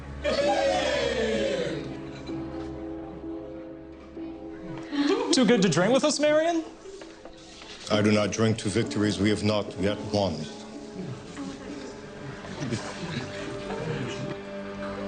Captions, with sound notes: (guests cheer) (solemn music) Too good to drink with us, Marion? - I do not drink to victories we have not yet won.